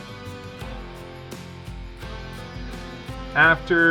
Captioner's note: soft clapping, music beginning to swell